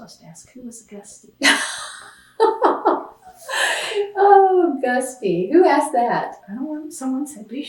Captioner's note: laughs